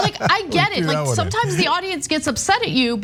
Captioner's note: laugh